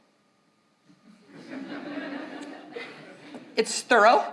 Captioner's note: audience laughs